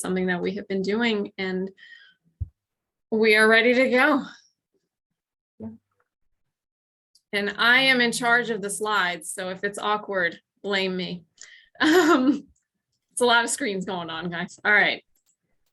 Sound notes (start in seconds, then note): 11.8 laughter